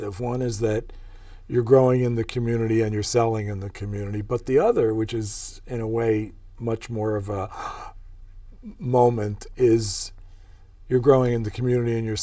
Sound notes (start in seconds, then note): 7.5 gasp